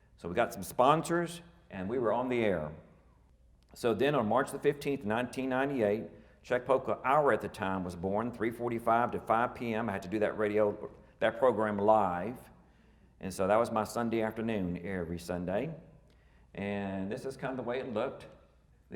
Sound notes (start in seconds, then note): none